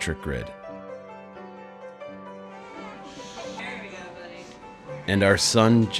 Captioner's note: baby cries